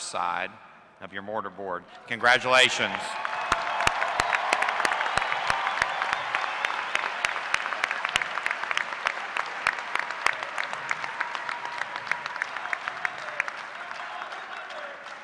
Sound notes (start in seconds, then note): 2.6 applause